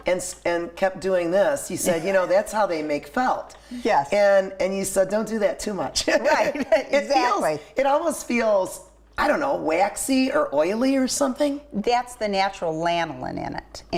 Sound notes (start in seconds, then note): 6.1 laughing